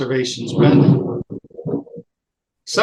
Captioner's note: thunder in background